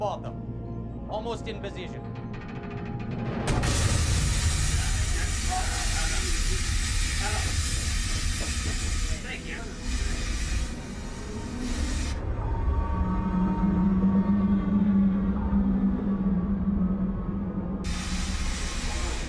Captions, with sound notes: Almost in position. [metal groaning]